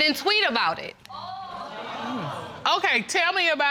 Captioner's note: audience exclaiming